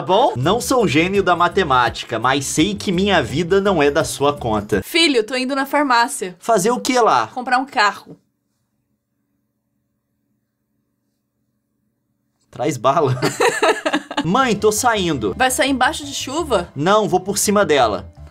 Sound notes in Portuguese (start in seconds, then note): 9.1 silêcio; 13.0 risada